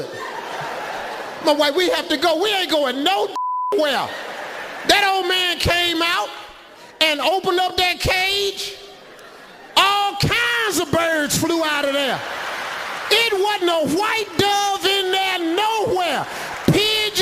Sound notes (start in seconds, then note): 0.0 audience laughs; 3.3 beeping; 11.8 audience laughs